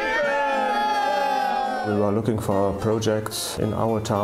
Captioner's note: cheering